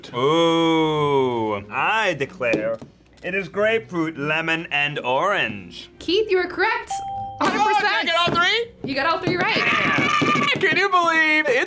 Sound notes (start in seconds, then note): 6.9 ding; 9.6 screams